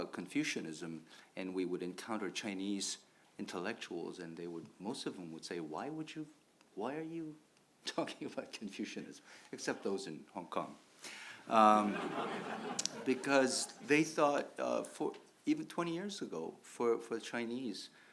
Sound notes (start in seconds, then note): 11.6 audience laughs